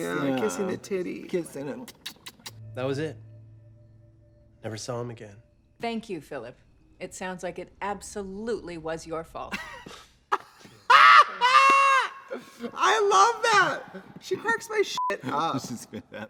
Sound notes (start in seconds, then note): 1.8 lips smack; 10.3 both laugh; 15.0 beep